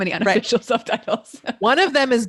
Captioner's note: laughing